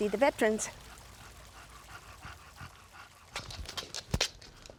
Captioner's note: dog panting